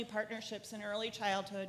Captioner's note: none